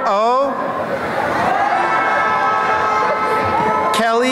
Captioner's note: cheering